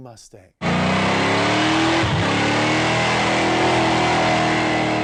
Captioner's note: car engine revving